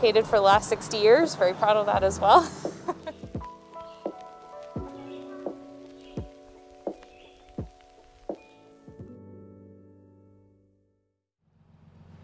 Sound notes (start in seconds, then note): 2.4 chuckles; 3.7 gentle music